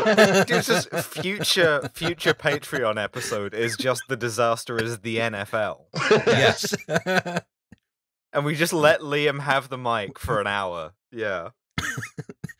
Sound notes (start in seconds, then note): 0.0 laughter; 5.9 laughter